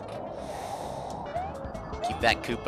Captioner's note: breathing